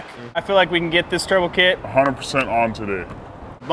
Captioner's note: none